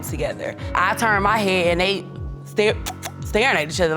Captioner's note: smooches